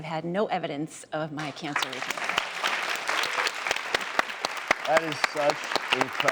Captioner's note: applauding